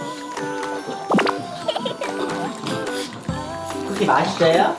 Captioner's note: laugh